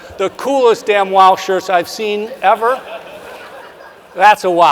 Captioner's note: audience member laughs